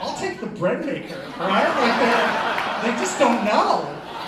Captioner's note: laughter